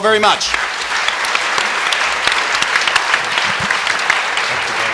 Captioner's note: applause